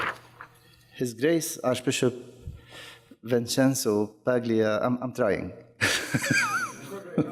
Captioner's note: laughs